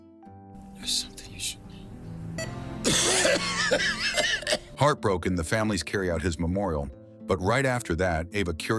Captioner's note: cough